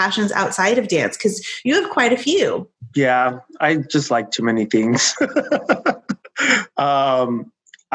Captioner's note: laughing